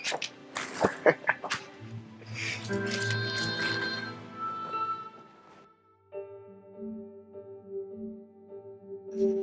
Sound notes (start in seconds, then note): 0.7 chuckles